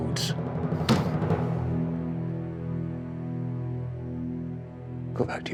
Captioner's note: hands slam on desk